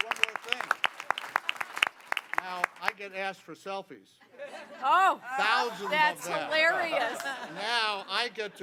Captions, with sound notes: [LAUGHTER] >> THERE WE GO. FANTASTIC. [APPLAUSE]